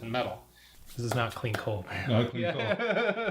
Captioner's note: laughing